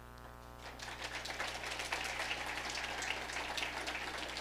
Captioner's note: audience applauding